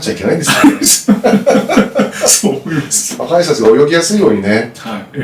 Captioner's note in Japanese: 笑い